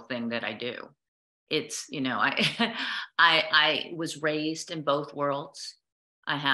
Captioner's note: laughter